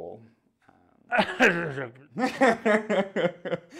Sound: coughs uncomfortably

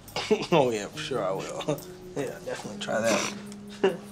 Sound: chuckles

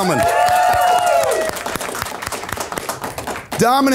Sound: audience applauds

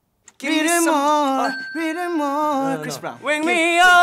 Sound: dinging

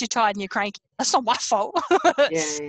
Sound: laughs

